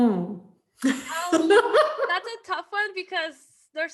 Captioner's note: laughs